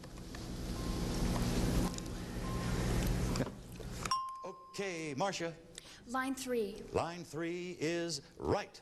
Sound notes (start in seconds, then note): 4.1 ding